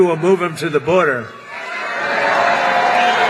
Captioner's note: cheers